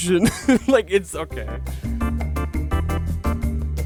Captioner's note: laughing